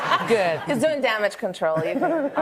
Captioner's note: laughter